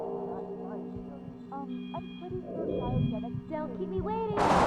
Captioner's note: heartbeat; static